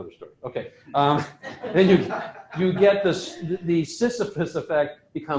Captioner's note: laughter